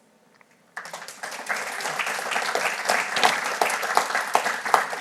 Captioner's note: audience applauding